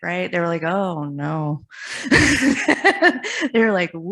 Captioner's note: laughs